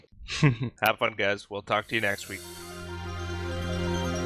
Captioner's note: chuckling; ♫ Progressive Electronic Rock Music ♫